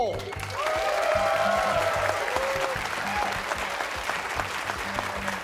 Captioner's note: cheers and applause